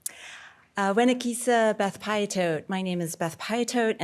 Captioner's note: speaking foreign language